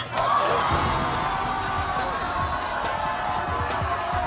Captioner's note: crowd yelling